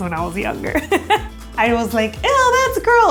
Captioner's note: laughs